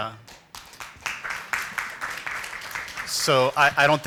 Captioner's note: applause